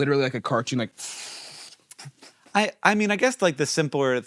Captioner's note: mimics air whooshing